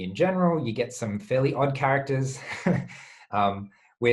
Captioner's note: chuckles